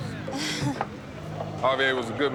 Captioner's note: nervous chuckle